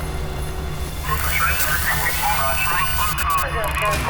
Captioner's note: radio chatter